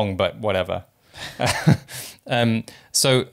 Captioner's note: both laugh